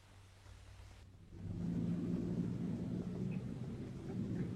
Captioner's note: engine rumbling